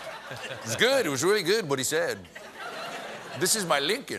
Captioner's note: laughter